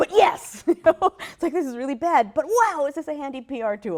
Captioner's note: laughs